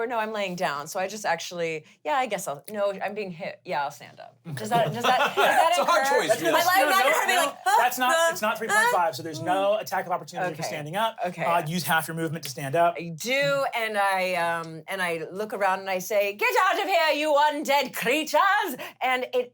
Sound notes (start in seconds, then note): 4.7 laughs